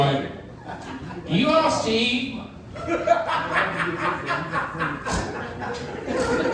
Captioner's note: audience laughing